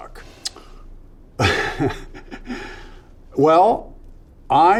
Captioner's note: Nicolas chuckles